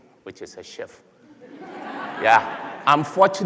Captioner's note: laughter